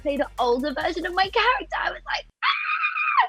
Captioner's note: squeals